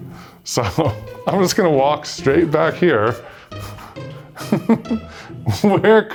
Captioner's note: laughs